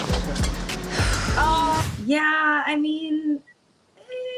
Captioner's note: sighs